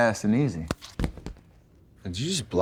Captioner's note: phone clattering